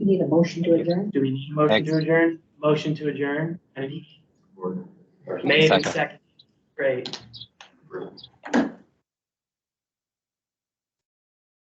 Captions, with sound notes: - Do We need a motion to adjourn? - Do we need a motion to adjourn? Motion to adjourn [speaks softly]. May I get a second, great. [audio mutes]